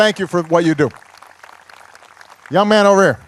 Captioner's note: applause